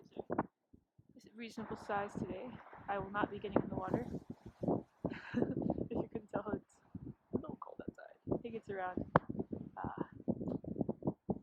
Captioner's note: laughs